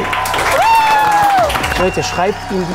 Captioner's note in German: Jubel, Applaus